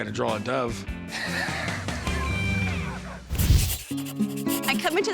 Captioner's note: laughing